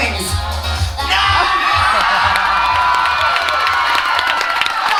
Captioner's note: audience cheering